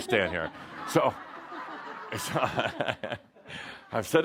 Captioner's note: laughter as he stands behind her